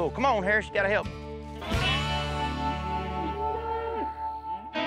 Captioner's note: mooing